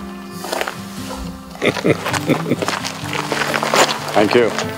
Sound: Sadhguru chuckles

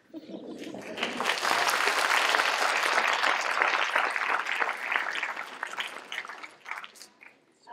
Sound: applause

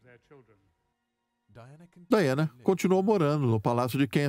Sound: voiceover

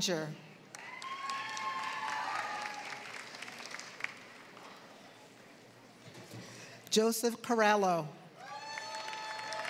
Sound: applause

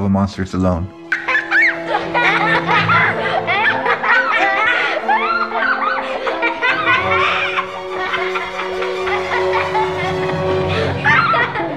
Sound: ominous music; laughs

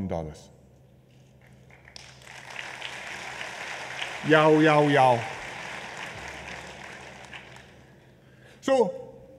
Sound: applause

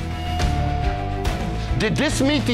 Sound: foreboding zing; intense dramatic music

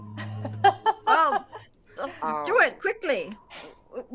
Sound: game Master laughs

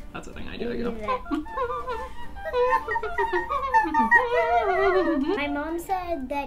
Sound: humming

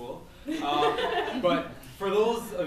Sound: laughs

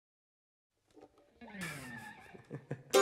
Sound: laughter

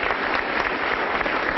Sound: applause

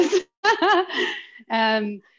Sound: laughs

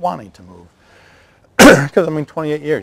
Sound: coughs

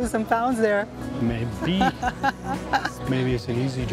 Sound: laughs

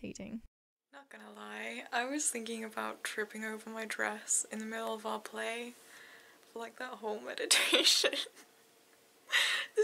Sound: laughs

